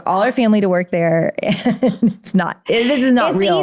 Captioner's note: laughs